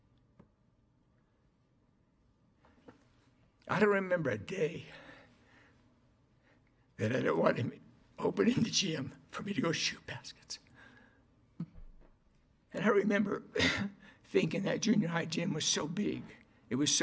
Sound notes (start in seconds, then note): 13.8 cries